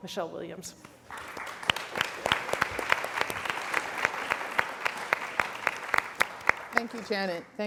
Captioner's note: applause